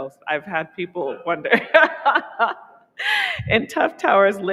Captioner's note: laughing